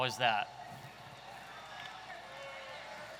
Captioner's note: audience chattering